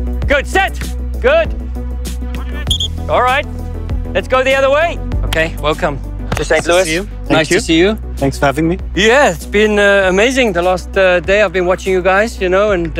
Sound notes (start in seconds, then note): 2.6 whistle whistling